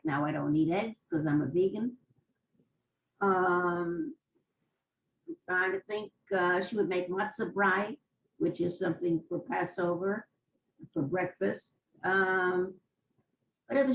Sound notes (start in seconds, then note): 2.0 pauses for 3 seconds